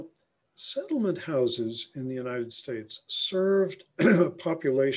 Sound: clears throat

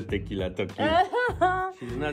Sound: laughs

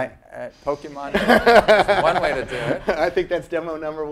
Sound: laugh

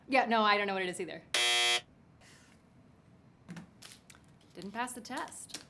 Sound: buzzer buzzes

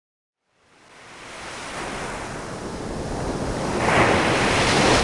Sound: waves whooshing

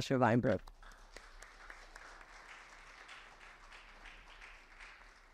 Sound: audience applauds

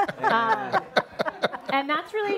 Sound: everyone laughs

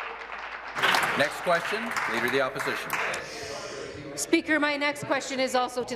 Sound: applause

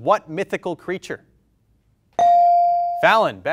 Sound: bell rings

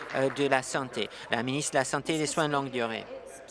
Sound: applause

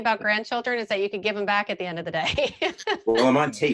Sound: laughing

